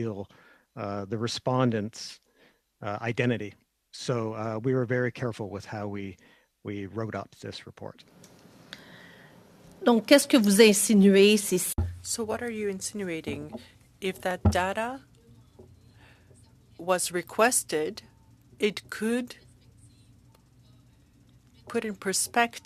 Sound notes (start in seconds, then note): 16.7 speaking French